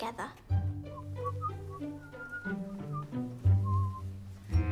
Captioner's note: whistling